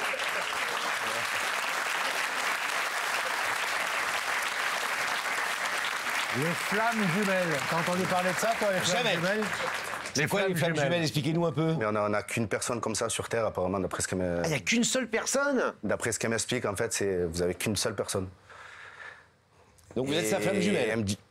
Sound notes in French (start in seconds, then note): 0.1 applaudissements